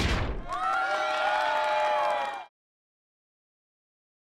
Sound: group cheering

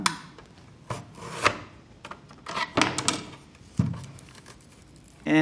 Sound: onion slicing

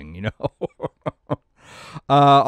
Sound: laughs

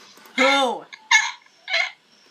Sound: chuckles

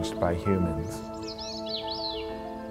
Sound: bird trilling

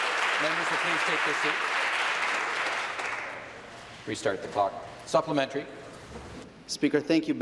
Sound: applause

